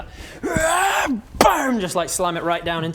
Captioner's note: rwaarrrrgh bang!!!